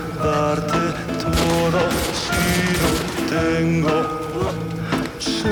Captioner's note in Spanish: Disparos